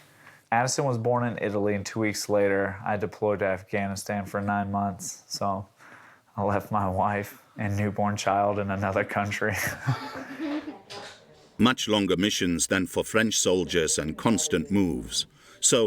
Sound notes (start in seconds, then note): 9.5 chuckles